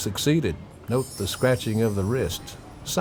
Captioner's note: bells chiming